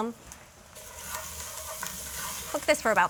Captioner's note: sizzling continues